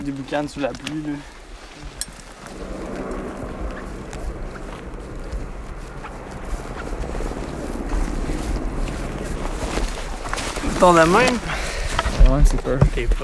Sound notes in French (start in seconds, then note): 3.1 moteur d'hélicoptère au loin